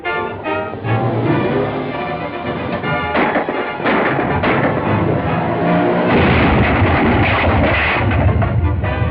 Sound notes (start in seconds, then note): 2.9 gunshots; 5.6 truck crashes